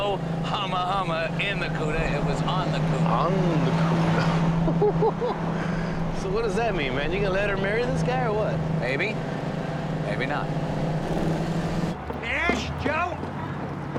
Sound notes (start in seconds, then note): 4.6 Joe chuckling